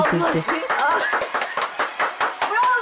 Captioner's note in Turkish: Alkış sesleri